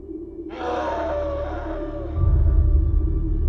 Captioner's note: distant animal roar